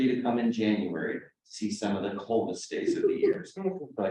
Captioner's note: laughing